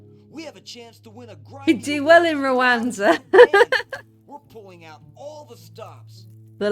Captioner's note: laughing